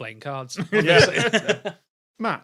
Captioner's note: group chuckling